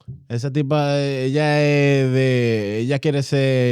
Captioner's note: speaking In Foreign Language